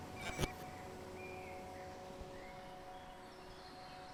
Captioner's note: birds chirping